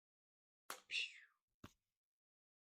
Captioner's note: pshh